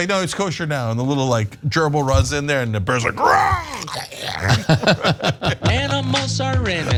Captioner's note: laugh